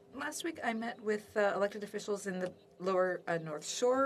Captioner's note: speaking French